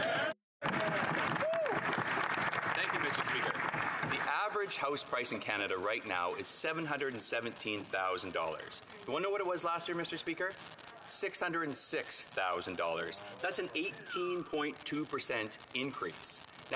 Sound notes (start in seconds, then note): 5.4 applause